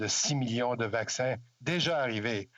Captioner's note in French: voix de l'interprète